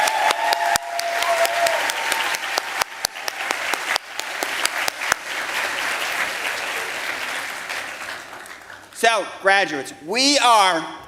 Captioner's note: applause